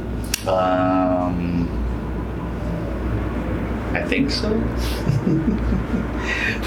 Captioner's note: doctor chuckling